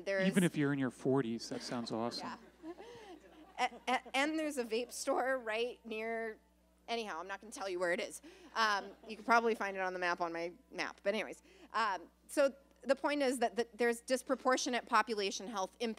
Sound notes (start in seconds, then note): 2.2 laughter